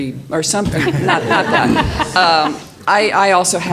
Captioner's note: audience laughs